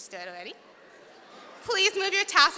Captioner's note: audience reacting